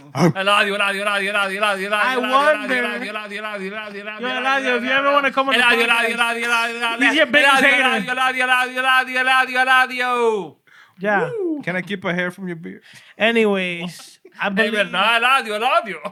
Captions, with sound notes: (Speaking Spanish) I wonder-- (Speaking Spanish) El Adio. You ever want to come and-- (Speaking Spanish) El Adio. El Adio. El Adio. El Adio. El Adio. Yeah. Can I keep my hair from your beard? Anyways, I believe-- (Speaking Spanish)